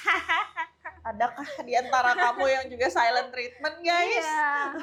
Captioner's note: laughs